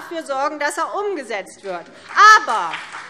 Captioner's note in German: Beifall CDU und BÜNDNIS 90/DIE GRÜNEN